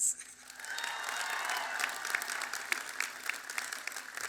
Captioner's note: applause